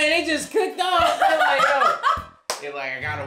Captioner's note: laughing